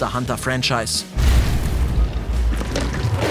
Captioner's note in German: Krachen